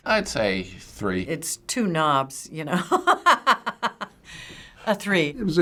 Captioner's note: laughing